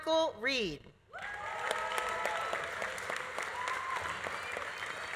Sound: audience cheering; audience applauding

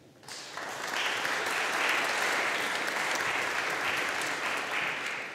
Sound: audience applauding

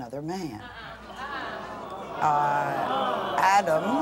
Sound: audience gawks

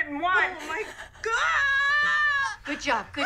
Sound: screams

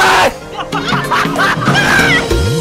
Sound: wheeze

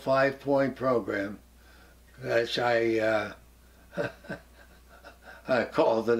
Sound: laugh

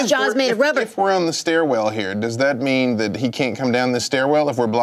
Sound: none

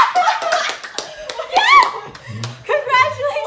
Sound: screams of joy

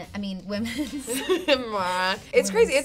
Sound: both laugh

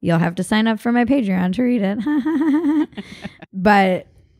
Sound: laughs

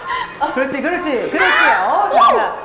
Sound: meow

